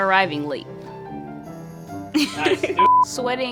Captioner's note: laughing